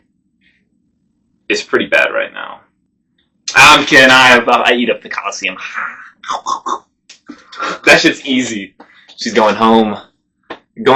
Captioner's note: nom nom nom noise